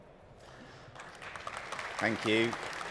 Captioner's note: applause